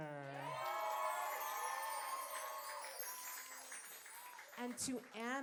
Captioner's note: applause